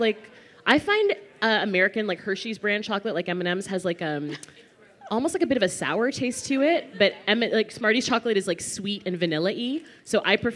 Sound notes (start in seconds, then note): none